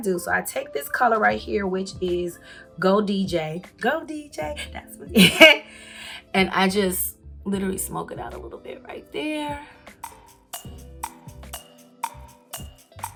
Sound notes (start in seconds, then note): 5.2 chuckles; 10.0 clock ticking